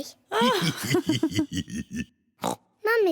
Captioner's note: oinks; both laugh; oinks